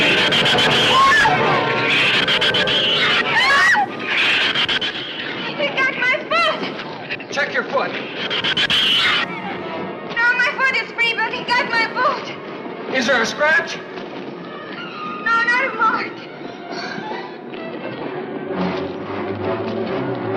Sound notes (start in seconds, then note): 0.0 shrews screech; 0.0 tense music continues; 0.0 Ann screams